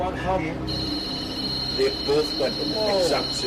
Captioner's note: buzzing sound is heard from the REM pod